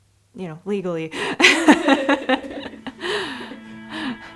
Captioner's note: laughing